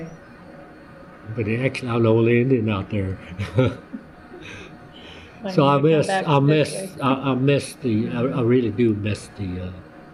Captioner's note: laughs